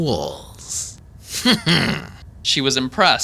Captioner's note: Sergey chuckles smugly